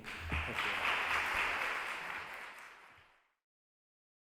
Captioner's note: audience applauding